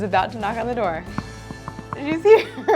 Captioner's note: giggling; knocking at door